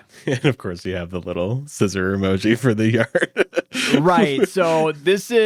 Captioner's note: laughs